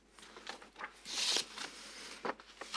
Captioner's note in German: Rascheln